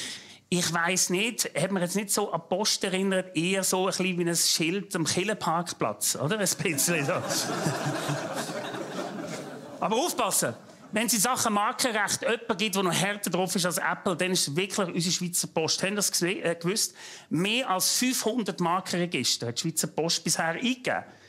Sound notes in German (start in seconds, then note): 6.7 Lachend